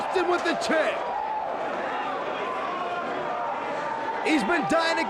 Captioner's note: audience cheers